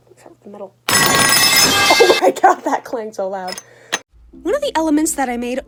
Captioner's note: metal pipe falling sound effect